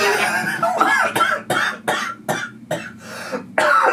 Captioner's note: coughs